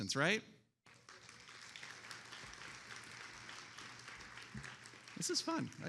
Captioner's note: attendees applauding